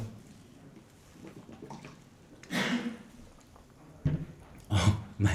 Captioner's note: gulp